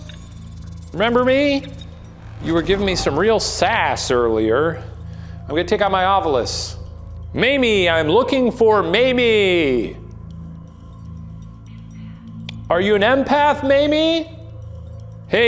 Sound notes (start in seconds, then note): 0.1 eerie music; 10.2 eerie music; 11.8 automated Voice